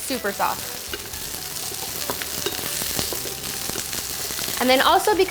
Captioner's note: celery sizzling